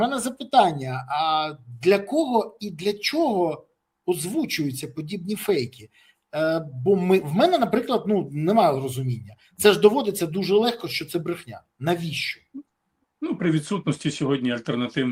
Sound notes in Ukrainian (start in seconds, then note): none